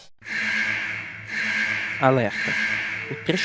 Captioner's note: alarm